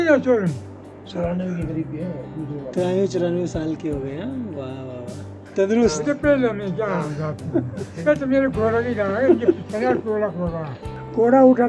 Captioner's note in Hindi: स्थानीय भाषा में बातचीत